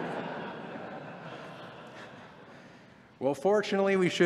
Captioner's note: laughter